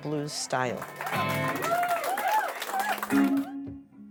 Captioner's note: audience cheering; soulful blues music